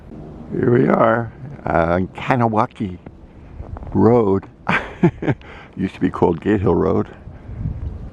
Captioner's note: laughing